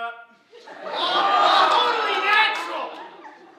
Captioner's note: audience laughing